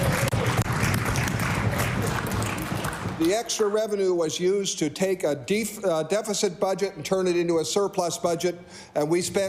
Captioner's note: cheering/Applause